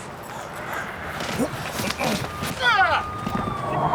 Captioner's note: siren wailing